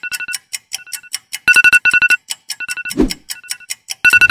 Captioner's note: iPhone alarm